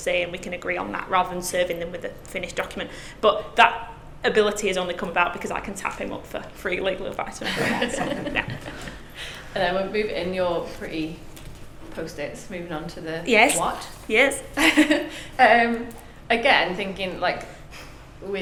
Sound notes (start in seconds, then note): 7.5 class laughs; 15.0 laughs